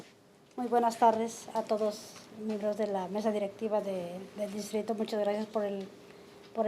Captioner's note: speaking in foreign language